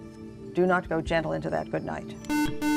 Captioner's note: buzzer